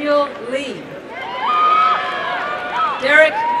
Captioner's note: applause and cheering